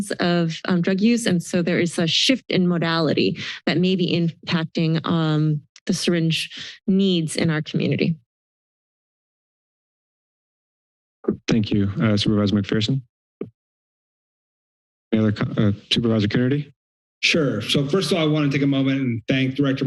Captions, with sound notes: of drug use. And so, there is such a shift in modality that may be impacting on the syringe needs in our community. [silence] - Thank you, Supervisor McPherson. [silence] Supervisor Coonerty? - Sure. So first of all, I want to take a moment and thank